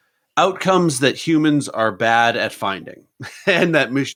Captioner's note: laughs